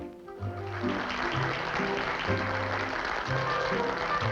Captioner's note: applause